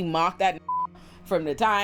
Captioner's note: beep